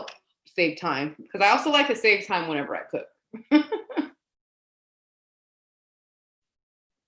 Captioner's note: laughs